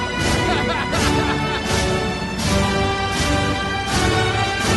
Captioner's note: person laughing